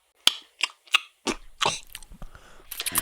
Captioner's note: kissing